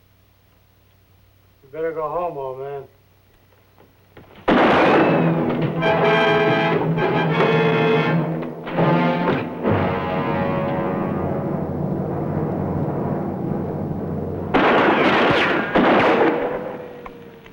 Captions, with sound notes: You better go home, old man. [GUNSHOT] [DRAMATIC MUSIC] [GUNSHOTS]